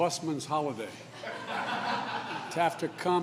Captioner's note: laughter